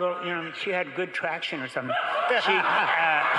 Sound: crowd laughing

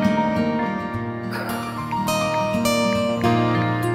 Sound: sighs

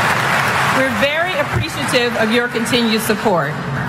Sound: applause

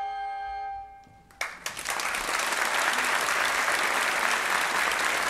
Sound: audience applauding

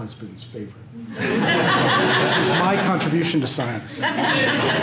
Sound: laughter

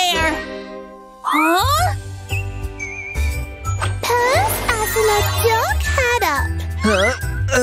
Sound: groans

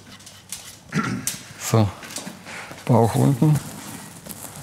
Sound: clearing his throat

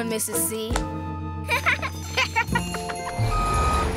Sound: both laugh

